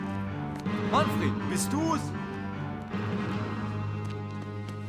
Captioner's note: speaking german